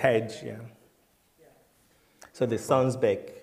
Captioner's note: voiceover